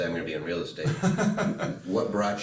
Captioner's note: laughing